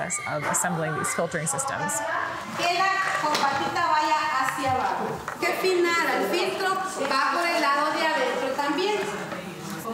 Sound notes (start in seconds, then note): 2.4 speaking foreign language